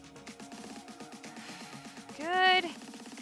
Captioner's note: upbeat lively music; exhaling deeply